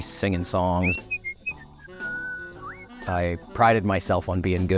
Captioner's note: whistling